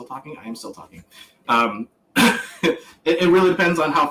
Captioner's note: laughs